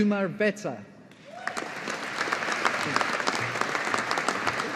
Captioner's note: audience applauding